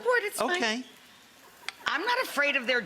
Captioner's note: audience laughing